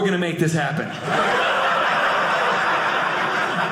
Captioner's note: audience laughing